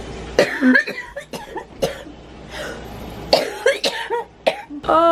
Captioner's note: coughing